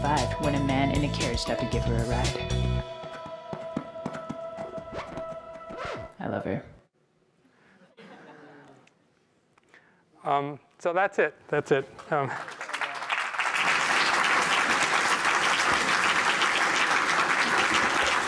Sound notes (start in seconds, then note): 7.7 laughter; 12.1 applause